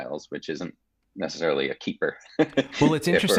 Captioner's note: chuckling